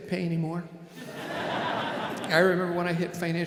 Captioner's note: audience laughing